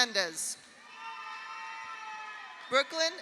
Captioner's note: audience cheers; audience applauds